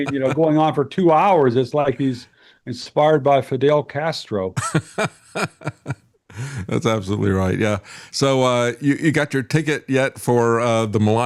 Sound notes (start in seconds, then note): 4.6 laughing